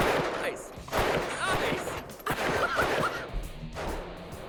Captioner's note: laughs